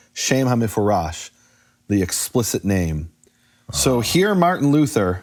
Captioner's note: speaking in foreign language